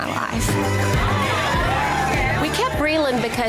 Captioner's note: upbeat music; women cheering